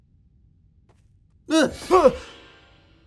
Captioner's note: scream